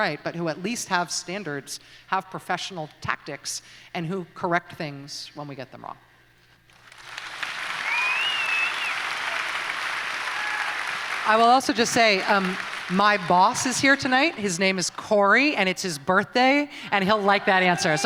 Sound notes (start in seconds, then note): 6.8 audience applauds